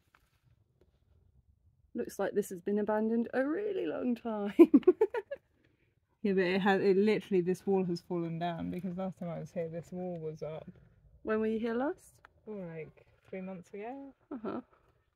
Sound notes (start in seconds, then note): 4.6 laughing